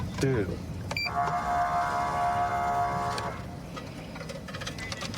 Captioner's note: horn blaring